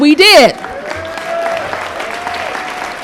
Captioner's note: applause